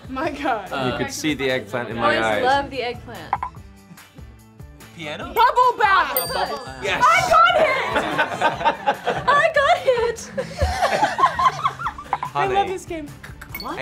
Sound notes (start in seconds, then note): 6.1 bell dings; 10.9 Camilla and Riley laugh